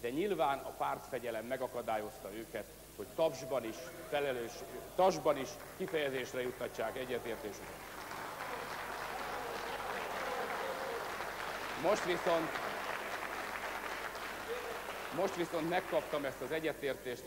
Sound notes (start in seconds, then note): 8.3 noise, laughter, applause on the left